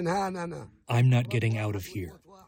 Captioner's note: through translator